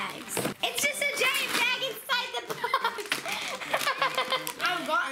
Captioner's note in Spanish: se ríe